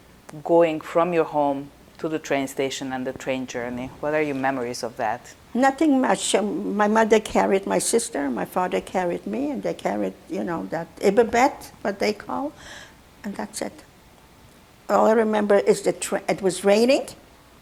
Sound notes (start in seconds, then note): 10.6 non-english